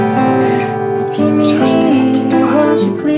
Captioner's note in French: chuchote